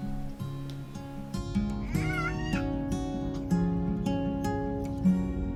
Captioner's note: baby's crying